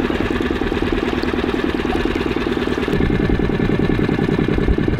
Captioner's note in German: Motor brummt